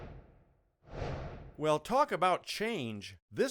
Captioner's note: whooshing